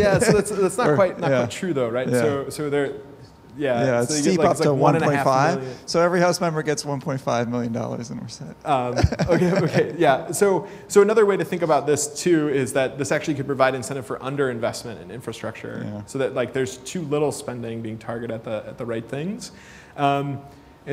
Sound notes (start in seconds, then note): 8.9 laughter